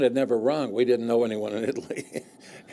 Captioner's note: laughs